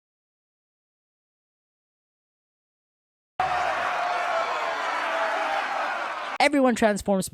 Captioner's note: cheers and yells